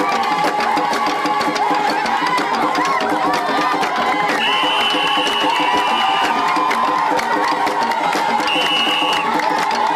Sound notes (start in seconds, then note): 4.3 whistle blowing